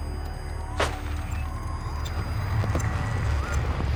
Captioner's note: gunshots